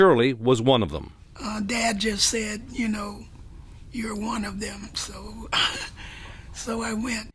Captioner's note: laughs